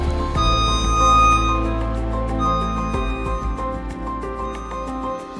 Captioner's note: machine beeping; upbeat music